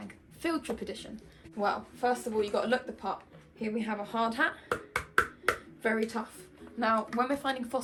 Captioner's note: tap tap tap tap